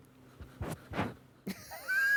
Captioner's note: bird sniffing loudly; laughs